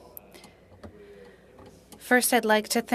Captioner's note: speaking French